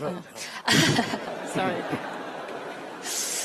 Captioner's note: laughter